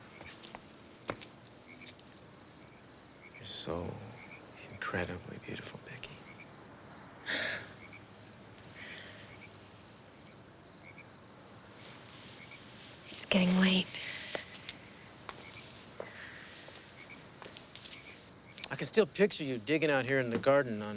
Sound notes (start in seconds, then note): 8.0 crickets chirp